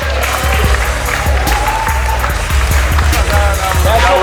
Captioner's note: clapping